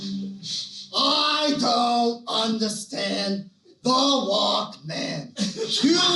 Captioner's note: Al Pacino Voice